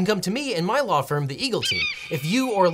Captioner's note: eagle screeches